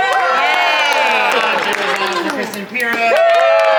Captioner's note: cast cheers and applauds